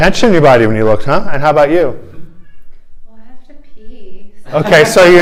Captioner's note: laughter